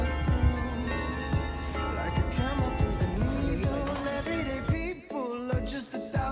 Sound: the bell ringing at noon at the city hall

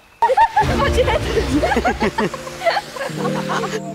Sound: laughter

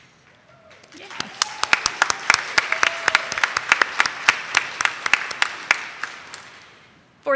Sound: audience claps; audience member cheers

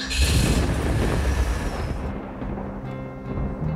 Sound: thunder rumbling

